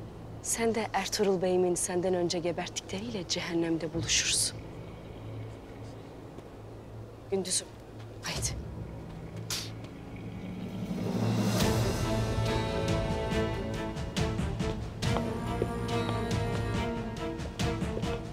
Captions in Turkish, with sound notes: Sen de Ertuğrul Bey'imin senden önce geberttikleriyle cehennemde buluşursun. Gündüz'üm, haydi. (Tükürme sesi) (Müzik - Gerilim) (Ayak sesleri)